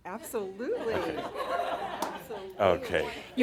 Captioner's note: some chuckles